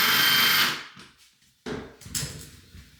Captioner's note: drill whirring